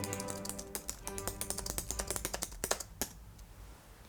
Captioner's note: nails clacking on keyboard